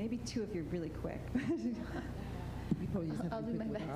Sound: laughter

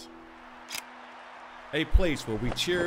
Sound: camera shutter clicks

